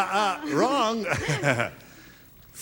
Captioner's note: laughing